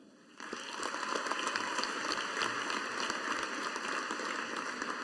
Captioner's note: audience applauding